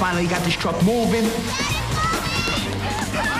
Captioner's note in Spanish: people shouting